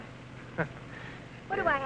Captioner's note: chuckles